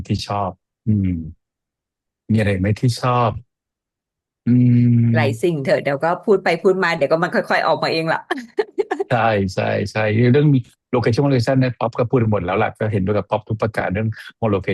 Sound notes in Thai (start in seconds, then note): 8.3 เสียงหัวเราะ